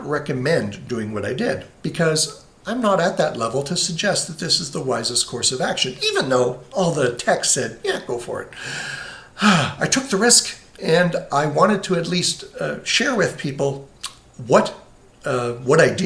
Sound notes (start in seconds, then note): 8.5 huffs